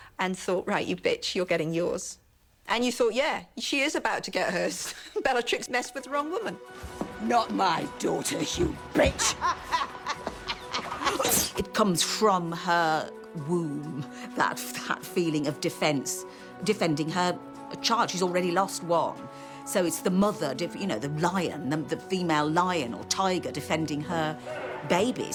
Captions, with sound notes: ...and thought, "Right, you bitch. You're getting yours." And you thought, "Yeah, she is about to get hers. Bellatrix messed with the wrong woman." Not my daughter, you bitch. [LAUGHS] It comes from her womb... ...that feeling of defense, defending her child. She's already lost one, so it's the mother def-- You know, the lion, the female lion or tiger defending her babies.